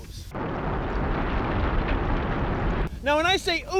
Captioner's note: rumbling